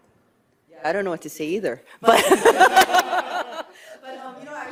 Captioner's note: laughs